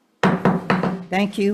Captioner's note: gavel clanking